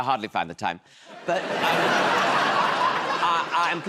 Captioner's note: laughter